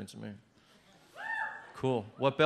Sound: person cheers

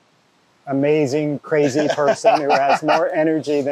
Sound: laughs

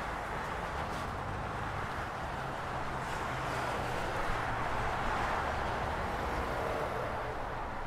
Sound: busy highway sounds

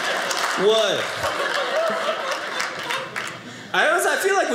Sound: audience applauding

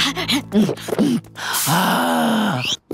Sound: sighing

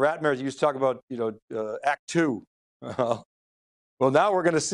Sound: laughs

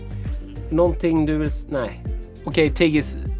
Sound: Speaking Swedish to Tiggy

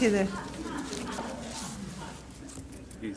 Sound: laughs

